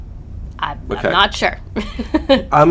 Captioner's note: laughs